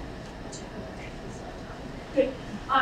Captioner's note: speaking away from mic